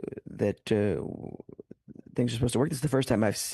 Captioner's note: speaking French